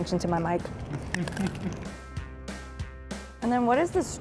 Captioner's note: crunch